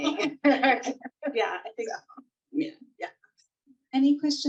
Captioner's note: laughs